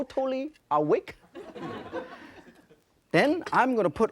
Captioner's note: laughter